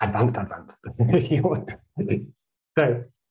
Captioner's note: chuckles